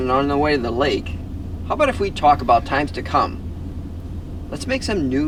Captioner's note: none